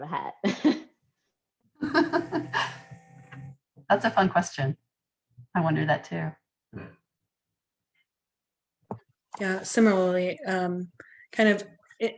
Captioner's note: laughter